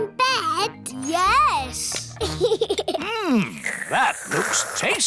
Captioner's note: giggles